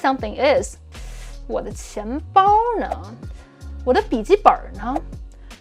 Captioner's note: speaking in Mandarin